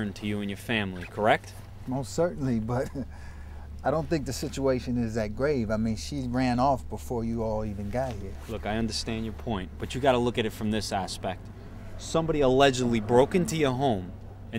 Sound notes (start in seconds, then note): 3.0 chuckles